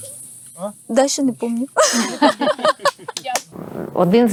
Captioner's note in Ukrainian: сміються